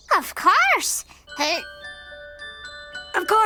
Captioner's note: baby heaves